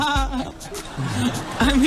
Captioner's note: laughs